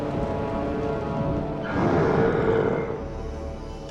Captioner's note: growl